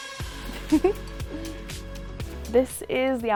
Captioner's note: giggles